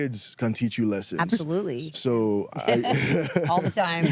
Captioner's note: laughs